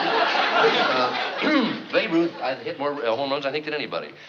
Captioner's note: clears throat